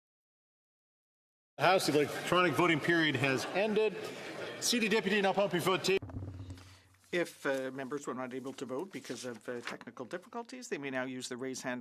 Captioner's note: speaking French